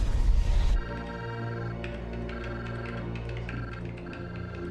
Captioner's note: machine trilling